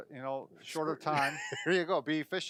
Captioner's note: laughing